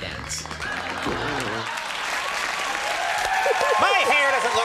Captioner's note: audience cheers